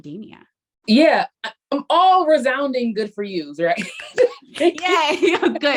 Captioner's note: laughs